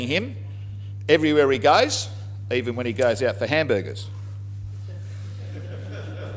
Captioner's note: laughter